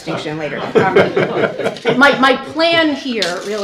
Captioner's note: laughter